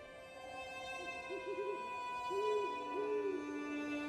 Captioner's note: owl hooting